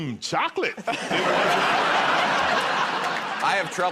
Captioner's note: laughter